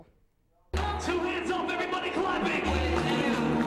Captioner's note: crowds